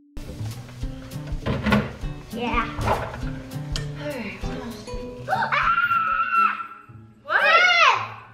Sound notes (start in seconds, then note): 6.5 gasps